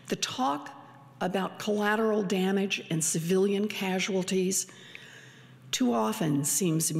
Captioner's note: none